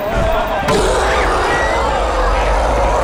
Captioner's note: screaming